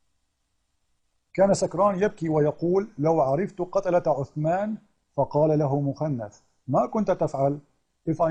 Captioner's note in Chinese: 念阿拉伯语